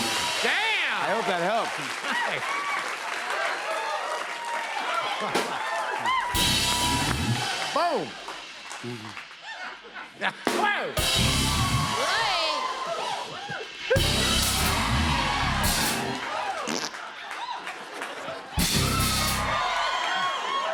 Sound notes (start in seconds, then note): 2.3 cheers and applause; 6.2 rimshot; 10.0 rimshot; 11.9 cheers and applause; 13.7 rimshot; 16.6 farts noise; 18.6 rimshot